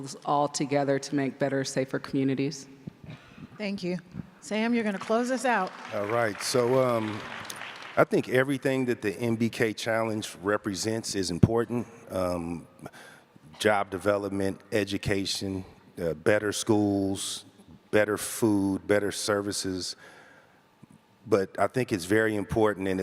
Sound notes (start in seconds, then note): 5.0 audience applauds